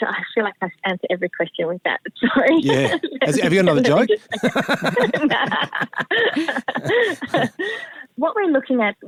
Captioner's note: laughter